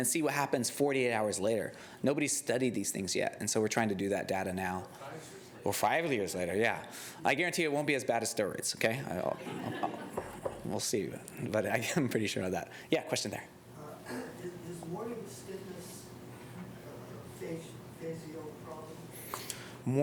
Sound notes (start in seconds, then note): 9.2 laughter